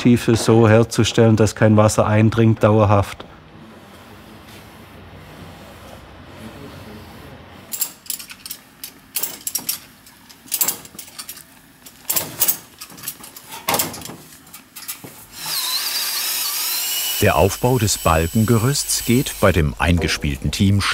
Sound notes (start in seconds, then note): 7.7 metallic clatter; 15.3 drilling noises